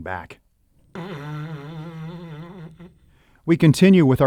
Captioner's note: snoring